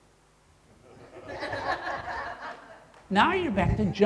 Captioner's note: crowd laughing